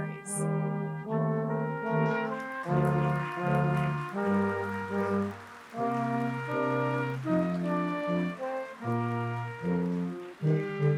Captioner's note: applause